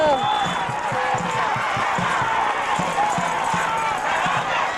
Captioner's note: crowd cheering